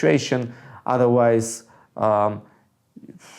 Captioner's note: exhales heavily